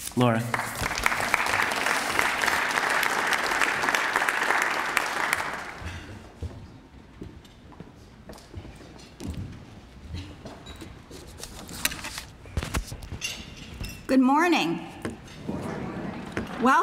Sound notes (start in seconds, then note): 0.2 applause